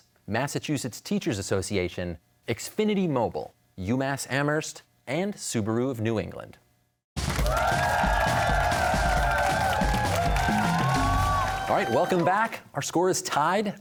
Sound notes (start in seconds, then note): 7.2 cheers and applause